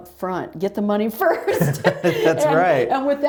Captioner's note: laughter